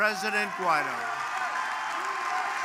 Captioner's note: applause